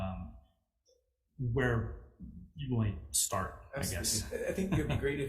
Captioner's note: chuckles